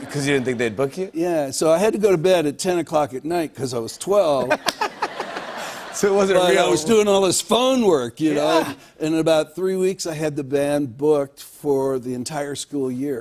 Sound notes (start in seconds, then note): 4.3 laughter